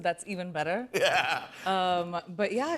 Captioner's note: laughter